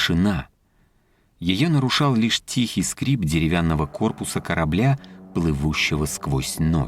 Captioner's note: Сделать паузу на пару секунд для звука скрипа палубы